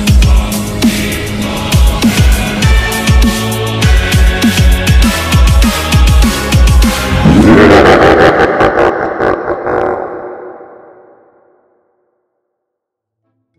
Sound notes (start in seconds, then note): 7.1 diabolic laugh